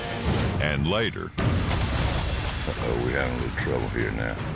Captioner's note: splashing